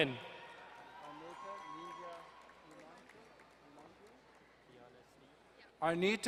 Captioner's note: crowd cheering and applauding